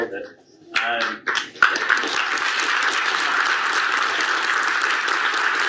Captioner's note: audience applauds